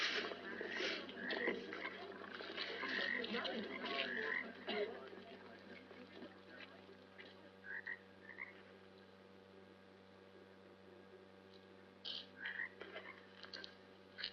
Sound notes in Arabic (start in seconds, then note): 1.8 محادثات ونقيق الضفادع